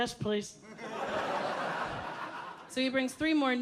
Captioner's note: audience laughing